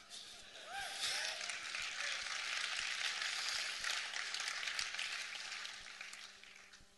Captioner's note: hoots and applause